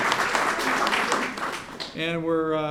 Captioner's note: applause